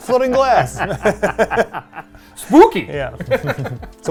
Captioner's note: laughing